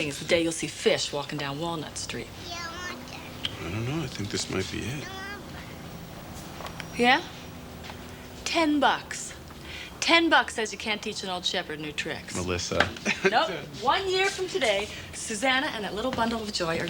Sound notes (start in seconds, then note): 2.4 Janey babbles